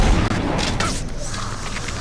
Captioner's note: gun firing